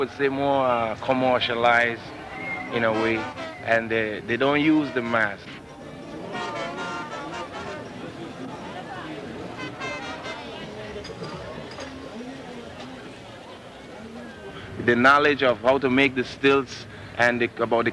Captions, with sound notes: say more commercialized in a way, they don't use the mask. (Parade music) (people chattering) The knowledge of how to make the stilts and about